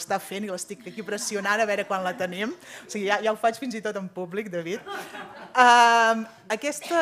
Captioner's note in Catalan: riures